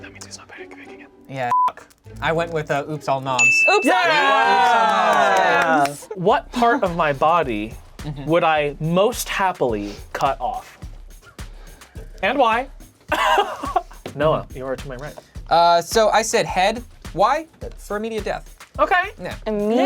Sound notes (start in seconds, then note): 1.5 beep; 3.6 all cheering; 13.1 laughing